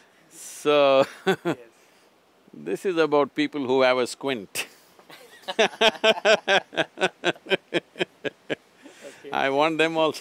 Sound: both laugh; both laugh

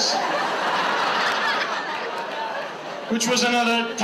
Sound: audience laughs

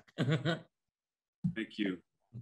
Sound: chuckling

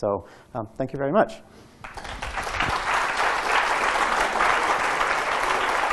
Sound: audience clapping

